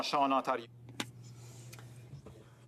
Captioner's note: speaking French